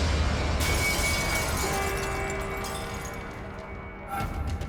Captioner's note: glass shatters